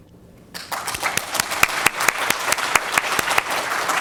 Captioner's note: audience applauds